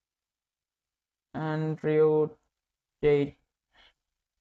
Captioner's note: voice-over in English